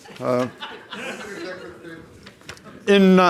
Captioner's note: audience laughs